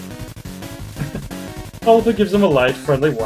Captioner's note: chuckles